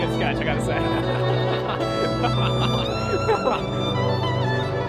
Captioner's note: all laughing; melancholy orchestral music continues